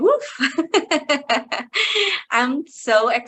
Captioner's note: chuckling